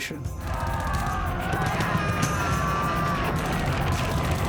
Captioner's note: men shouting